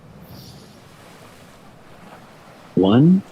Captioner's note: inhales